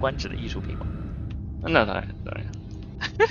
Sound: laughs

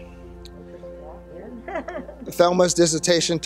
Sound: murmurs and laughter

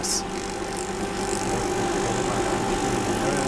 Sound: whirring

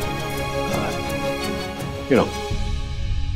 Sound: sighs

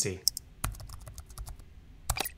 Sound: typing

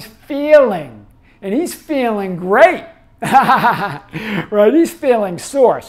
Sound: laughs

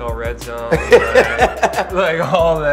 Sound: laughs

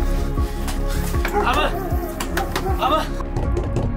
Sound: door knocking

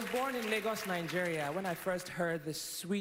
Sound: applause

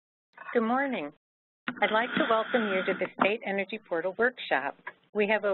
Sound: microphone being adjusted

